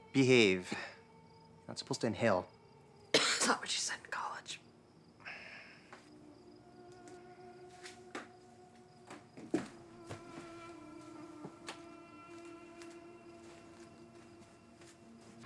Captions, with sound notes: Behave, you're not supposed to inhale. - (coughs) That's not what you said in college. (solemn music)